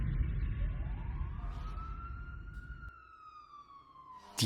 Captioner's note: siren blaring